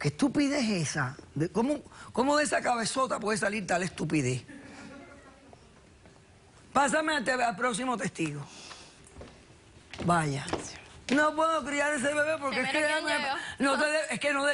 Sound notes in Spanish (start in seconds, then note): 6.3 risas